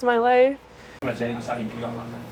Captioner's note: speaking in foreign language